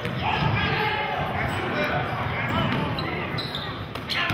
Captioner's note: yelling